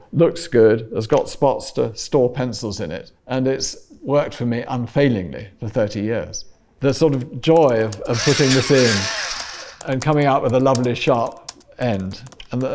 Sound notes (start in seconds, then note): 8.1 motor whirring